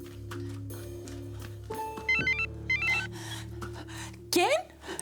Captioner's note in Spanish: Suena un celular